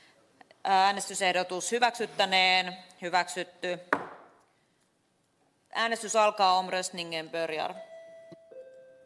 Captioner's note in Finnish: nuijan kopautus